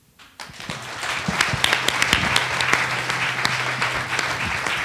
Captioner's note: attendees applauding